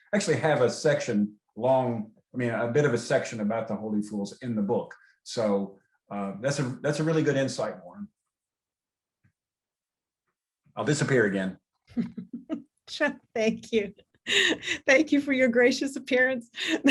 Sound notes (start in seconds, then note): 12.4 laughs